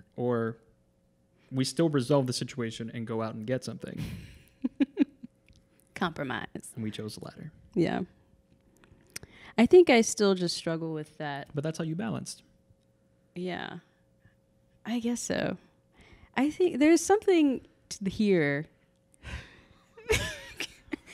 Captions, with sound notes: "or we still resolve the situation and go out and get something." - (laughing) compromise - And we chose the latter. - Yeah. I think I still just struggle with that. - But that's how you balanced? - Yeah, I guess so. There's something here (laughing)